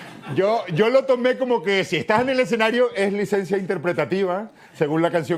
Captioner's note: none